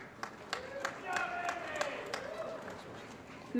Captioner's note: applause & Cheering